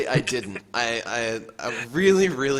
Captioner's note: laughs